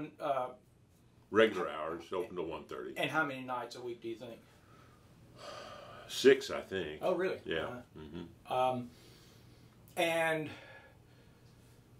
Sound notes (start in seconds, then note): 7.9 sighs